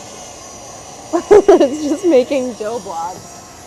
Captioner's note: laughs